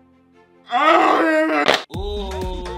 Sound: grimaces loudly; moans; upbeat music

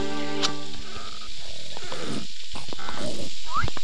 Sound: pier creaking; timbers snoring

